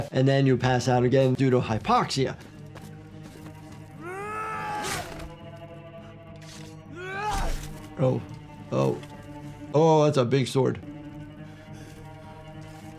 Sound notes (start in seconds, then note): 4.0 Arryk yelling; 4.0 flesh squelching; 7.0 Arryk yelling